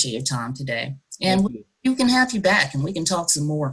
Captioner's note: audio glitches